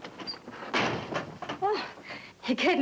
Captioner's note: door slams